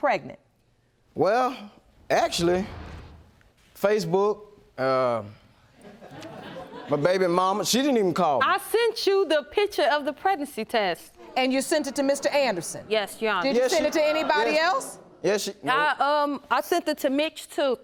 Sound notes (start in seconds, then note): 5.8 audience chuckling